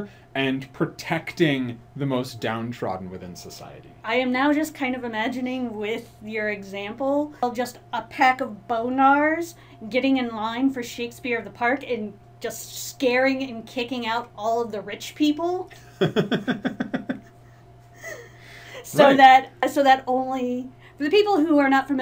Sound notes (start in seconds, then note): 15.8 laughs